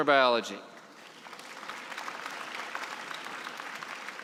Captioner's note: applause